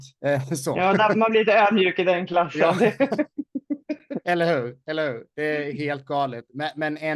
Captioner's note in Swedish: Skratt